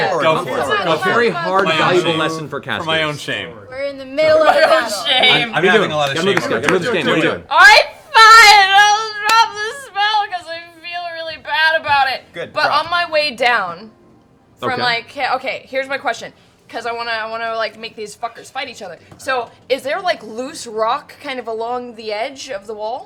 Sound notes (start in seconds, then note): 4.3 laughing